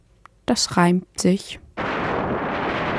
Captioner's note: in German